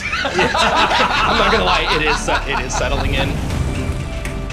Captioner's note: laughter